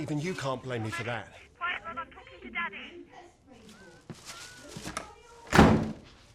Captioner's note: neighbor shouting in background